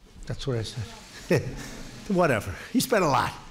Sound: laughter

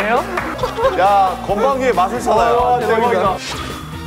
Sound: laughing out loud

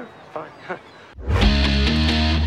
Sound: weak laugh

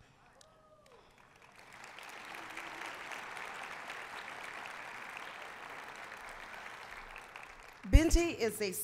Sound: applause

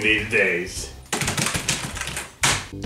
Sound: frantic typing

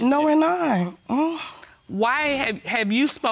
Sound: scoffs

